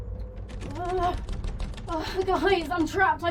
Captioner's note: door handle rattling; Mia groaning